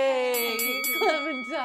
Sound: bell rings

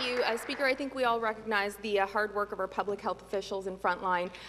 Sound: some Applause

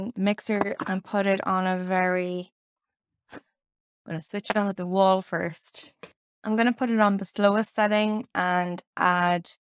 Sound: none

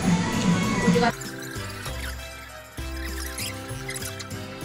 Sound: slurping

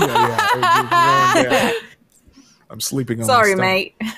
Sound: people laughing

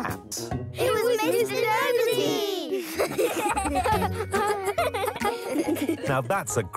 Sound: laughing

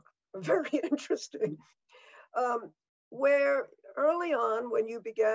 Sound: laughing

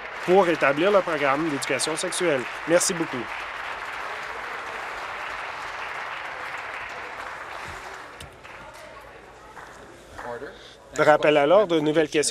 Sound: applause

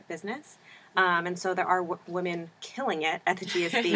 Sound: laugh

